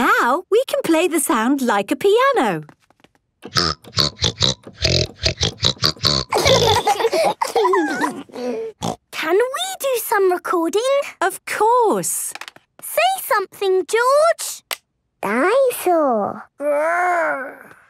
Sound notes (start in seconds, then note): 3.5 snorting version of theme song; 6.3 laughter; 9.0 snorting